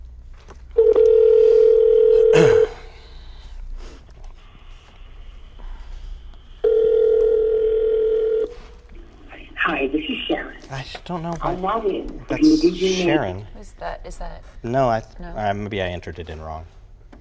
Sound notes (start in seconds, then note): 0.7 phone rings; 6.6 phone rings